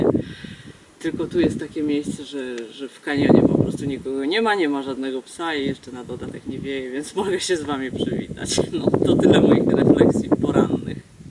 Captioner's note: huh there was wind